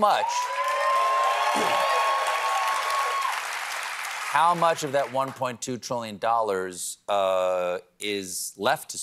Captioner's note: cheers and applause